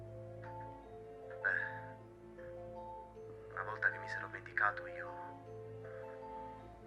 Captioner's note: Giulio on phone